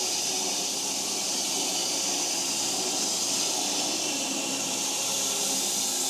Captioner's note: log saw whirring continues